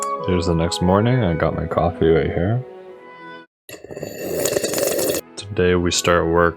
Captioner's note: slurps coffee